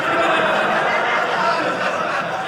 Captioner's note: audience laughing